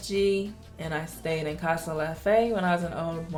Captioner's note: speaking foreign language